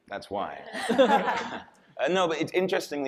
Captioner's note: audience and panelists laughing